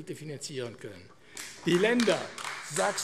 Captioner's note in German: Beifall AfD